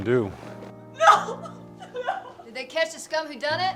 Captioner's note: sobs